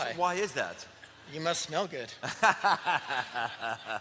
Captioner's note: laughs